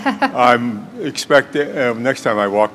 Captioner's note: chuckle